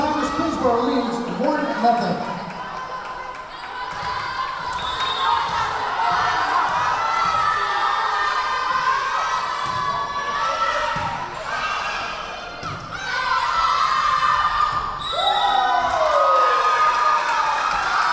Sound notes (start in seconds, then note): 4.7 whistle blowing; 5.7 yelling; 15.0 whistle blowing; 17.9 clapping; 17.9 yelling